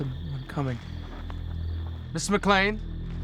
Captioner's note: footsteps